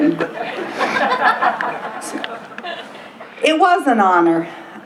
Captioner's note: laughter